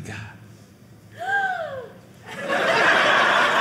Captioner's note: gasp; audience laughing